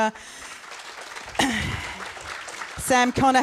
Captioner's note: audience applauds